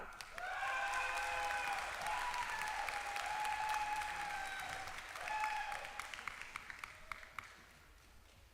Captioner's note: applause